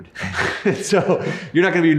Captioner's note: laughs